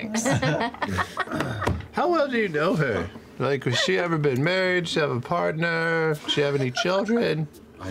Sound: Marisha and Laura laugh

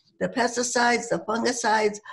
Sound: none

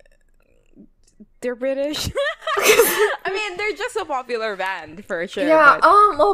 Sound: laughs

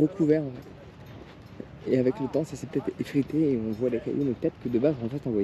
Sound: speaking in foreign language

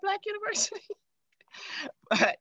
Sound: laughing

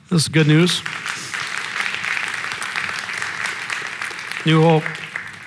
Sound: congregation applauding

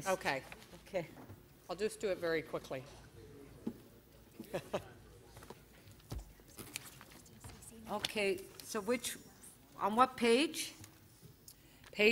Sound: laughter

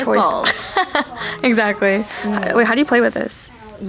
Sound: laughs

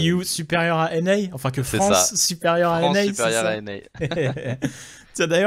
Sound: both laughs

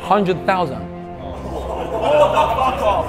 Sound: group laughs nervously

